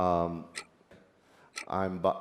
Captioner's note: clocks still ticking